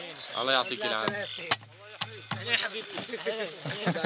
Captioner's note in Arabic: الصوت المنطوق باللغة العربية